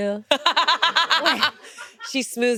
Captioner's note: laughing